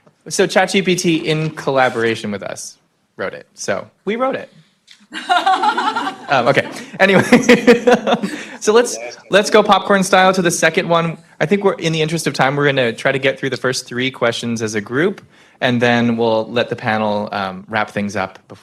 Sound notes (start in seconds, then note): 5.1 laughter